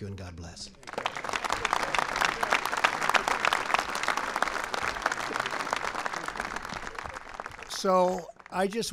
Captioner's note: applause